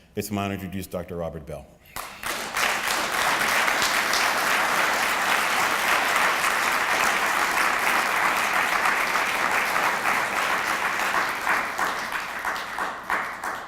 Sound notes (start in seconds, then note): 1.9 applause